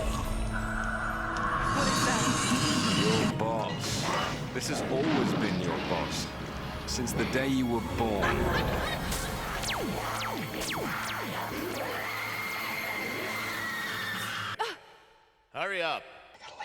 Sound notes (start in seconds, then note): 0.2 creepy roars and laughter; 9.7 hungry monster sounds; 9.7 screaming